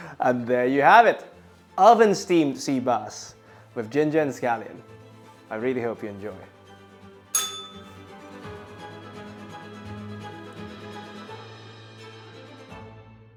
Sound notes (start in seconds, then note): 7.3 bell rings; 7.3 upbeat music